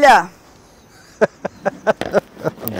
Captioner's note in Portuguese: risos